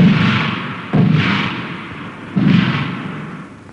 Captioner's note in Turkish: si̇lah sesleri̇ gelmektedi̇r